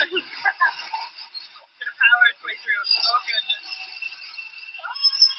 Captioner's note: laugher, chatter